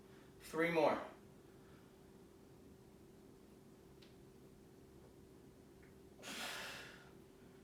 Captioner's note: exhaling